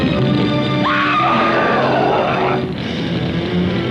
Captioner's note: screaming